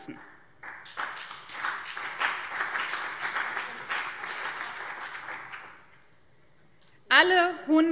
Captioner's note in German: Beifall BÜNDNIS 90/DIE GRÜNEN und CDU